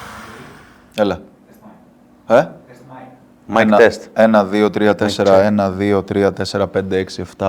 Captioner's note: in Greek